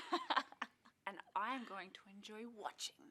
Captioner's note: laughter